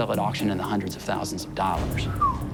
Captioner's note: whistles